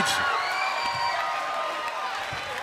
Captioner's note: crowd cheering